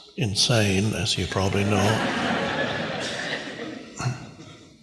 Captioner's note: audience laughs